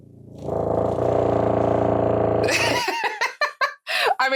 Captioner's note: vibration intensifies